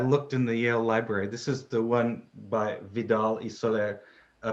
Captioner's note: speaks in foreign language